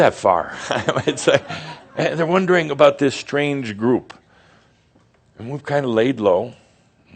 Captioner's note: Adamus chuckles